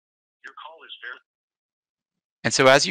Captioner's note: audio cuts off